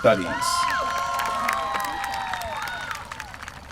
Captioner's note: applause